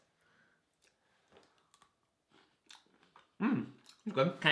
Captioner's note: chews